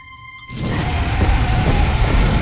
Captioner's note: roars